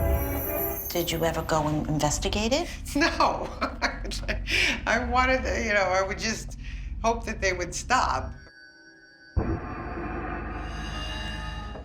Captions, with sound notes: Did you ever go and investigate it? [laughing] No. Oh, my god. I wanted to, you know, I would just... hope that they would stop. [ominous music playing]